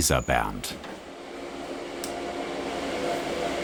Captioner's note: quiet roaring